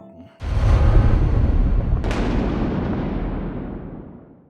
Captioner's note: thunder